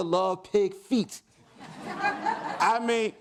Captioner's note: audience laughs